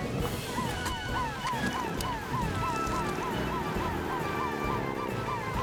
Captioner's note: heroic Music; sirens Wailing